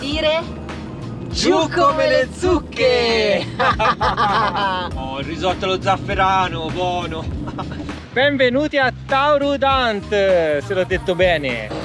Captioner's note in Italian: risate